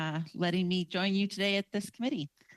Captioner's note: speaking french